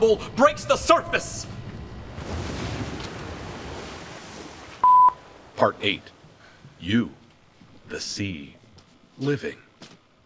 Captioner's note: beep